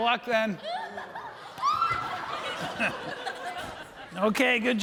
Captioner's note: audience laughing